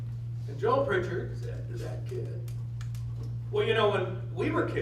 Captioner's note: none